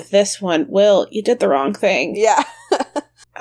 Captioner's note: laughs